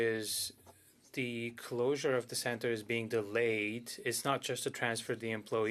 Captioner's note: speaking French